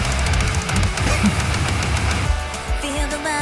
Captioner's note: upbeat music; laughing